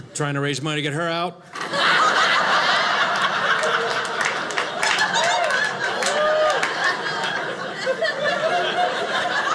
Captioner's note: audience laughing